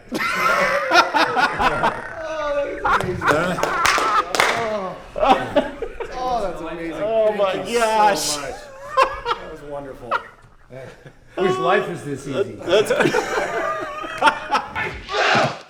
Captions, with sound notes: (laughing) (clapping) - Oh that was amazing, thank you so much. - Oh my gosh. - That was wonderful. - I wish life was this easy. (laughing)